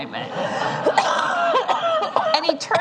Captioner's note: laughter